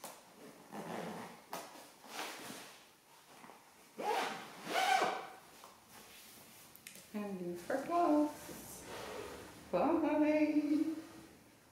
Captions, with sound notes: (zips zipper) And leave for class. Bye!